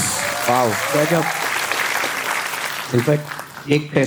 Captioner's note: crowd applauding